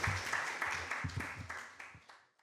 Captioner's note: applause